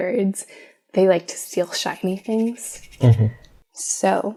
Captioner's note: magpie sounds